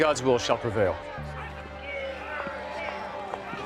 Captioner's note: protesters chanting